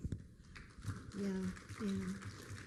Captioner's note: applause